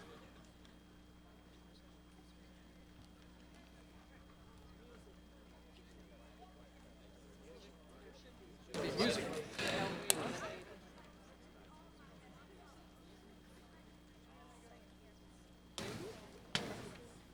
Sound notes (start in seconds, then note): 8.9 people chattering